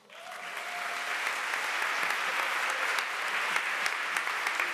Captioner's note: applause